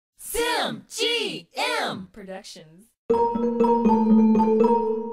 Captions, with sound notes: - [Voiceover] Simgm productions. (playful music)